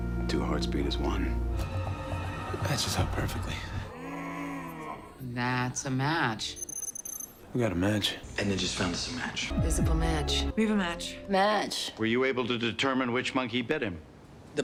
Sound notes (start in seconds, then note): 4.1 distorted sound; 6.5 computer beeps